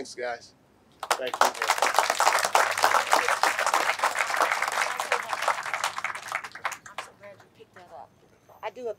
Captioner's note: clapping